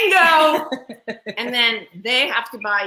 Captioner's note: laughs